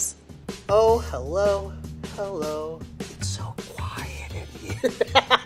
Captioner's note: laughs